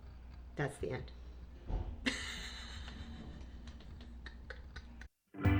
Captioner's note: laughs; upbeat music